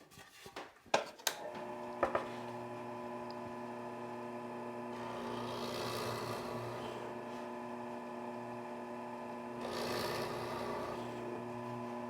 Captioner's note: drill Press Noise